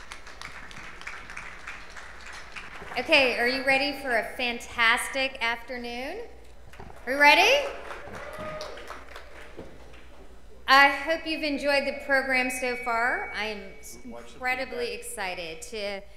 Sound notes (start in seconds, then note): 7.4 cheers and applause